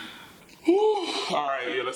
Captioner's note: deep inhale and exhale